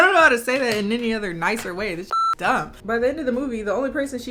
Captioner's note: beep